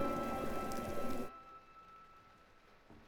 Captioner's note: rain patters